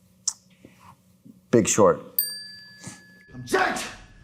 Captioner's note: snaps fingers; bell dings